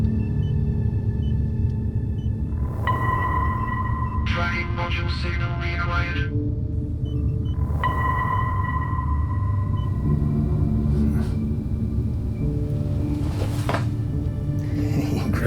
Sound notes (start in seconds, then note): 2.7 radar ping; 7.5 radar ping; 12.9 machines beeping